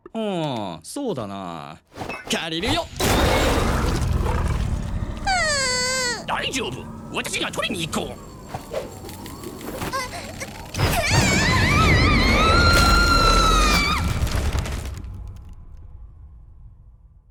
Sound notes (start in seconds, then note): 3.2 door snarls; 10.9 stammers